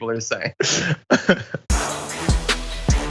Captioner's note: laugh